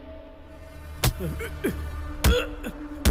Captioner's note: Kicking